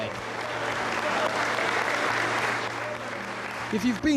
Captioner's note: crowd applauding